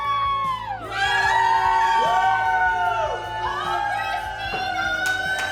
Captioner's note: family cheering